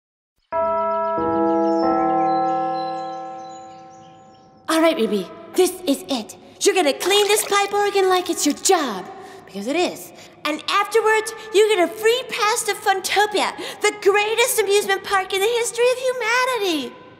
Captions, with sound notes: (bells chime) - Alright Ruby, this is it. You're gonna clean this pipe organ like it's your job, because it is, and afterwards you get a free pass to Funtopia, the greatest amusement park in the history of humanity!